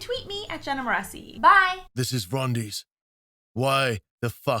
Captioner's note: rumbling male voice